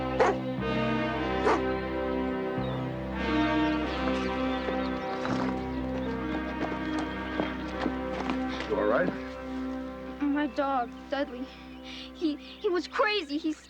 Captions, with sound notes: [barking] Dudley, don't be mad. It's me, OK? Don't-- it's OK. [growling] No! Please stop! No!